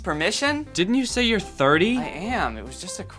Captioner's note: voiceover